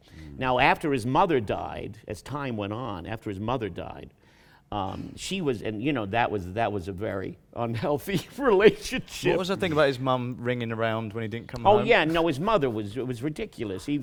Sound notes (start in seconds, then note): 5.2 laughing